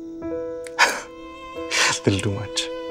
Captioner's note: Chuckles